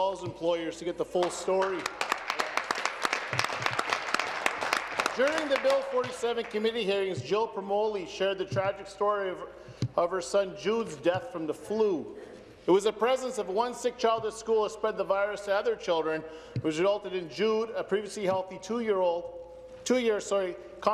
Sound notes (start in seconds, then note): 6.3 applause